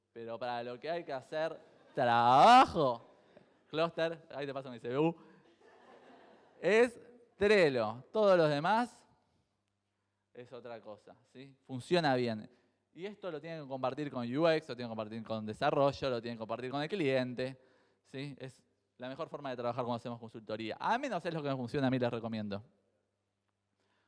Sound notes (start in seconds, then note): 2.0 crowd laughs; 4.0 jokingly; 5.7 crowd laughs